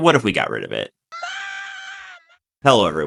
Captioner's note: agonizing shrieking